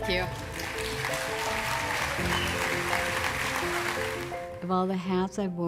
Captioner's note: crowd cheeering